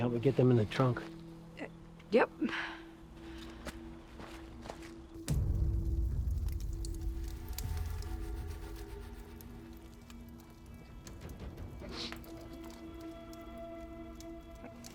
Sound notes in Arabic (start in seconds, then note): 7.1 طقطقة نار; 10.6 شهقات; 12.3 طقطقة نار